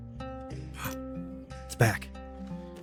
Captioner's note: gasps